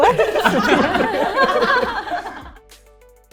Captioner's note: laughter